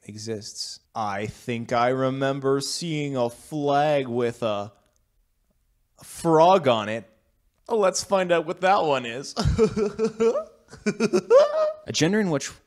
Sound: laughs

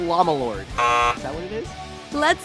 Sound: buzzer

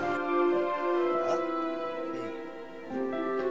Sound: indistinct chatter

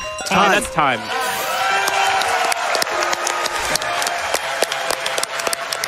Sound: audience cheers

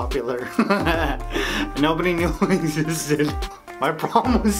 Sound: laughs

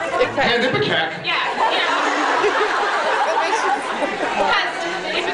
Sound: laughs

